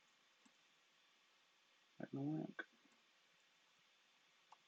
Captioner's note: speaks faintly